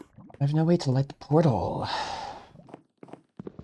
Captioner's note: sighs